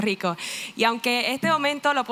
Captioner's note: spanish